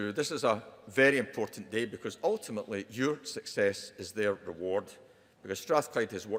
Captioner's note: none